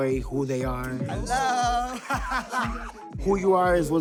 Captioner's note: laughs